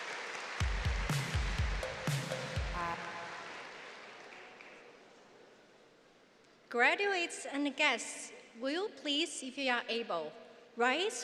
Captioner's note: applause